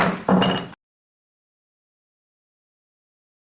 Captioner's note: gavel bangs